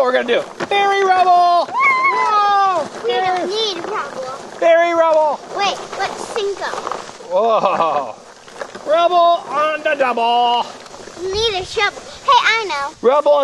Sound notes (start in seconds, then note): 3.5 voiceover; 7.3 voiceover